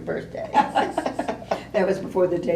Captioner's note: laughter